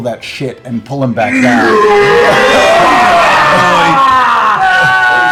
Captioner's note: cheering